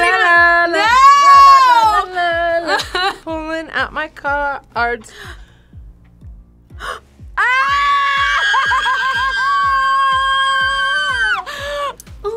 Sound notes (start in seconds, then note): 5.1 gasps; 7.4 both scream